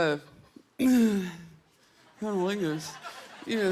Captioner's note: clearing throat; laughter